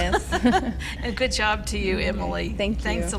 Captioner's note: laughter